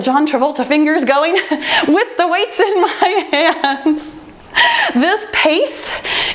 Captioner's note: laughs